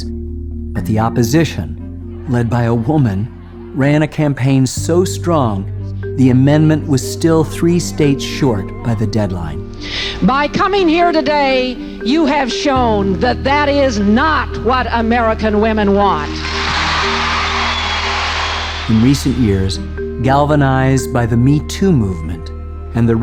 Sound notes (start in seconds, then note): 16.2 audience cheering